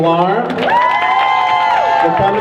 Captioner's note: crowd cheers